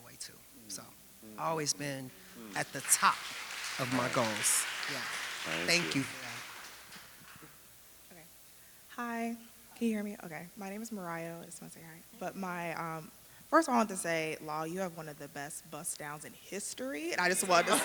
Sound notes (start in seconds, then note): 3.6 audience applauding